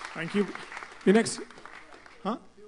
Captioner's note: applause